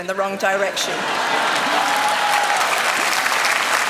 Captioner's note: laughter; applause